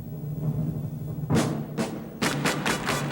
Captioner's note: tympani rolling; rhythmic clapping